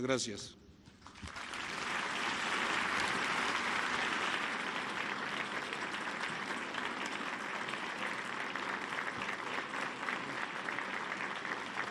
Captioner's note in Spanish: aplausos